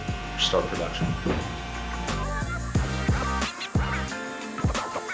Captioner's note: saw whirring; rock music